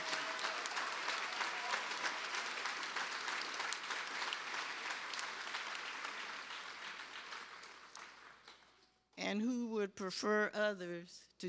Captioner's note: cheers and applause